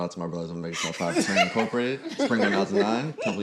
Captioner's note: all laugh